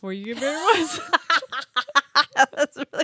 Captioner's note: both laughing